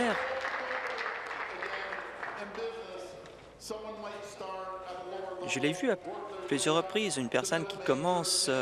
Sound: applause

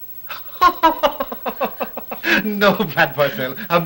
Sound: laughing

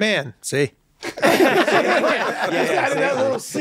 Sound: all laughing

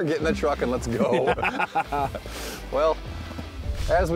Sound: laughs

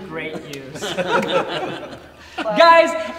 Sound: laughter

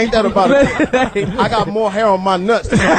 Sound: all laugh

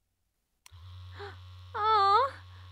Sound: click; vibration; moaning

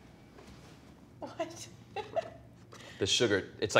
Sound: laughs

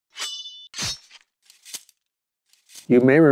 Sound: sword slashing

